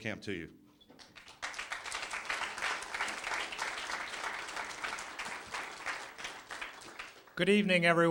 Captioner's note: applause